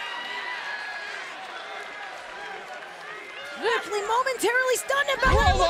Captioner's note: crowd chatter